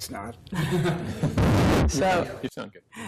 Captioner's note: laughter